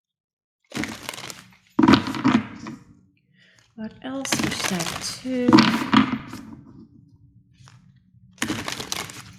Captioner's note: shuffle